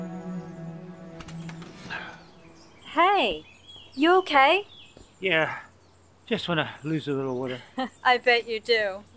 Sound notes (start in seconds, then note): 1.2 door squeaks